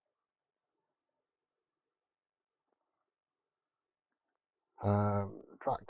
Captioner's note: pause